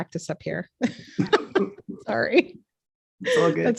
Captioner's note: chuckles